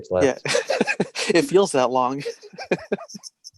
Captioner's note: laughing